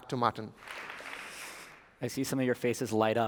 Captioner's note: applause